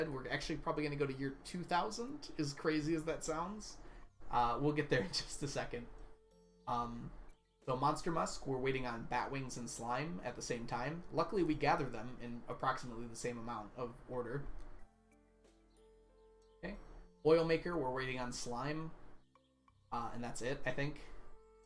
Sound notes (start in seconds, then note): 5.8 laughs